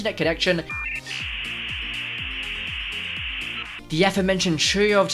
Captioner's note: dial up sounds